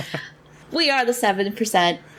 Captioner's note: laughs